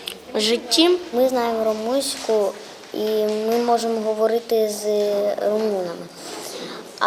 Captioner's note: <i>Ukrainian</i>